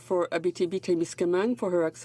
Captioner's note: speaking French